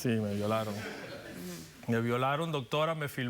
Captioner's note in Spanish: risas